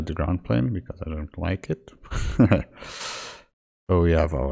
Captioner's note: giggles